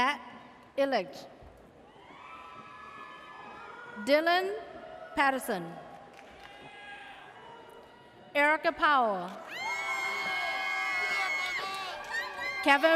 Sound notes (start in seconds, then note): 2.4 audience cheers; 6.7 audience cheers; 9.4 audience cheers